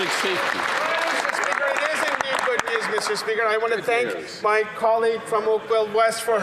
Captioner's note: some Applause